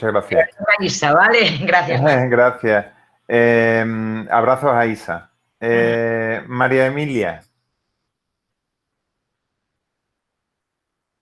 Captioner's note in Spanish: risas